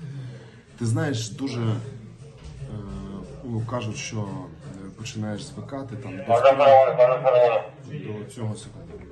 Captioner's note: radio comms call